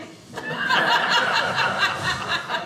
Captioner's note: audience laughing